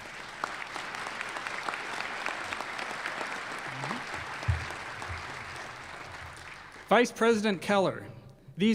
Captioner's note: applause